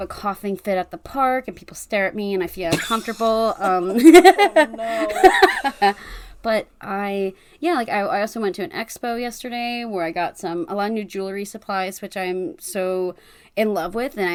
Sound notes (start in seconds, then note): 5.9 laughs